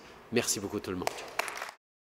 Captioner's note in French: Applaudissements